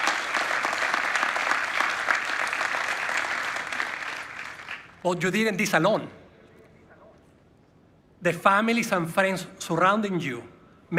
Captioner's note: applause